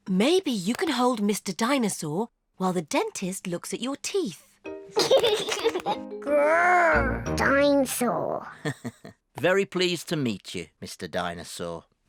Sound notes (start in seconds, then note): 4.9 giggles; 8.6 chuckles